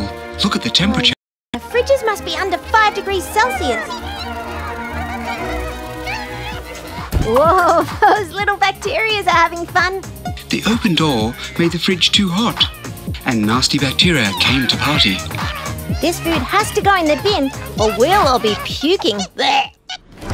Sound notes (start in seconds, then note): 2.7 bacteria cheering, music